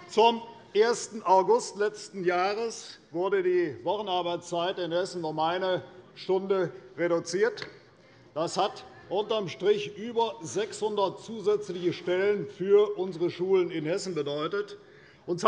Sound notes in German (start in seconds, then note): none